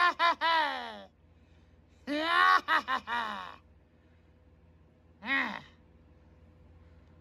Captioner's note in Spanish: risas